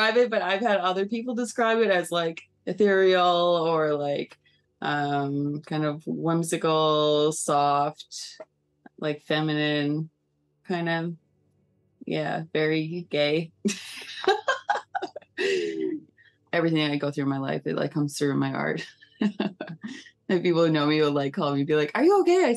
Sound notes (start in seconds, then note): 14.2 laughing; 18.8 laughing